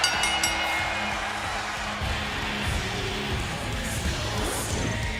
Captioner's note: bell ringing